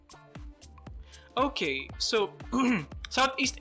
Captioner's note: clears throat